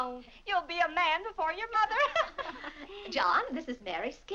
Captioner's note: laughs